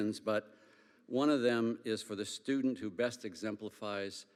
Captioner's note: none